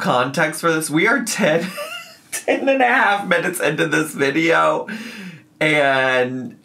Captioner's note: laughs